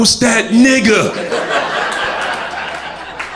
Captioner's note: crowd laughter